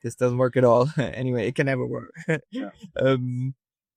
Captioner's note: laughs